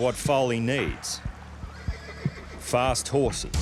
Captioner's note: horse neighing